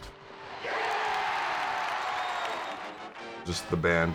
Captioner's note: crowd cheers